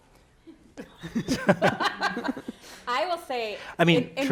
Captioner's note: panelists laughing